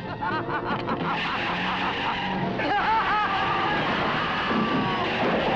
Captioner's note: Elizabeth laughing; brakes screeching